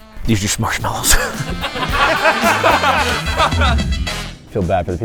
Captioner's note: laughs